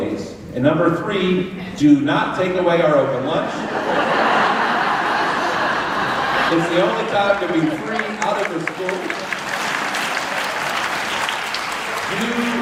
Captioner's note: laughter; clapping